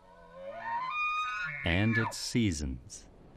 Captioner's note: elk bugles twice